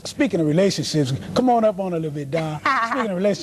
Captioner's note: laughter